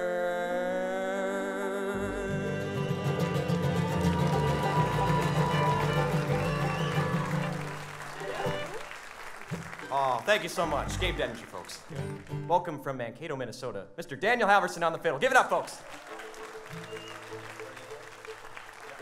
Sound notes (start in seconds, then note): 2.9 audience cheering and applauding; 15.2 audience applauds